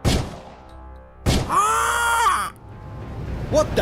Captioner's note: shot and squawk